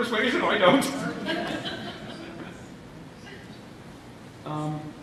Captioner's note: laughter